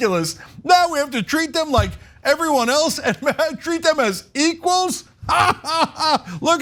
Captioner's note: laugh